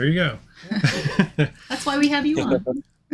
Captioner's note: chuckling